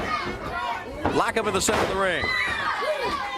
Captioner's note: crowd chatter